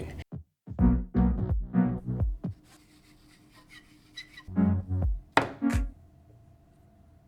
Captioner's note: chalk on Pool Cue Noises